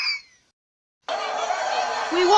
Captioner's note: shouting and protesting